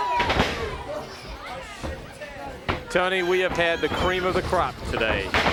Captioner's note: crowd chatter